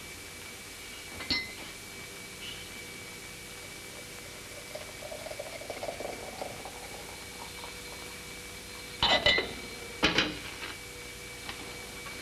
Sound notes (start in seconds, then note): none